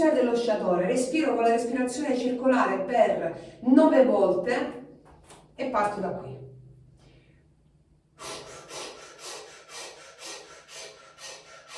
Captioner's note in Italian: sbuffare